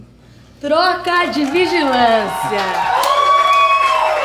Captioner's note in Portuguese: aplausos